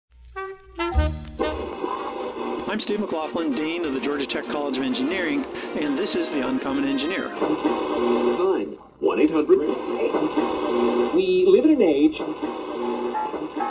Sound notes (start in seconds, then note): 8.9 radio scanning frequencies